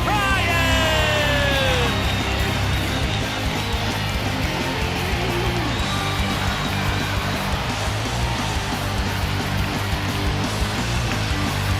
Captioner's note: crowd cheering